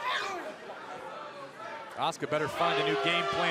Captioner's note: crowd chatter